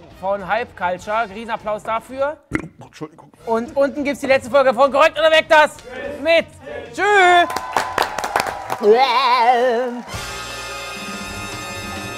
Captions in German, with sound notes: Von "HYPECULTURE", Riesenapplaus dafür. (Rülpser) 'Tschuldigung! - Und unten "Korrekt oder Weg!", das Quiz mit Tisch! Tschü! (Jubel, ulkige Laute) (Dynamische Musik)